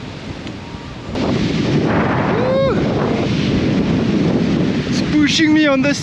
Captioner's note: wind blows